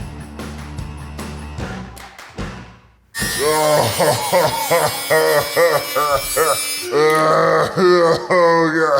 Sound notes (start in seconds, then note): 3.2 power tool whirs; 7.0 gags